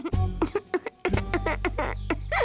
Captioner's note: crying